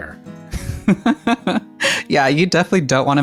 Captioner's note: laughs